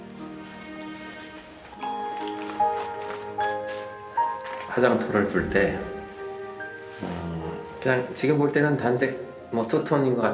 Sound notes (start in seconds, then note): 4.8 speaking in Korean